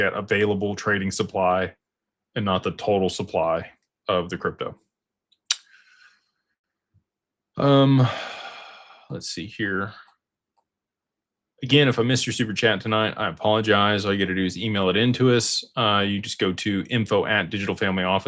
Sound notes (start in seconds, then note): 7.6 sighs